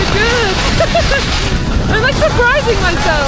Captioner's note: laughs